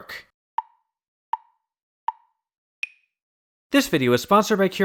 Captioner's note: tick, tick, tick, tick, tock